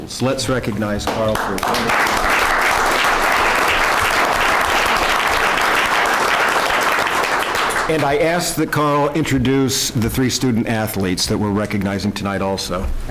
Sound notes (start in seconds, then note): 5.8 applause